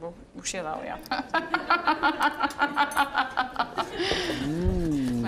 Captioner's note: all laughing